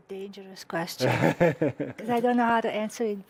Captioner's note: laughs